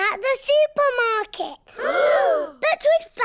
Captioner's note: all gasp